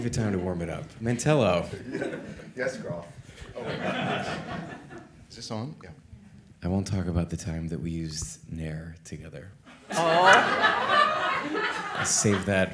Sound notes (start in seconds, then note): 3.5 audience laughing; 9.7 audience laughing